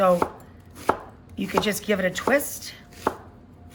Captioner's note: chopping